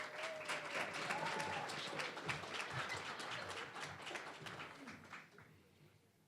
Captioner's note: applause